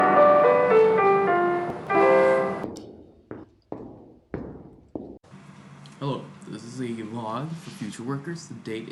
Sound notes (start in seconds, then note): 1.6 walking